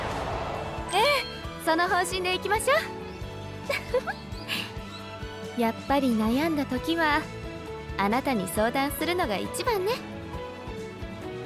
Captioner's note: laughs